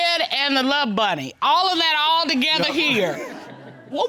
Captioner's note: audience laughing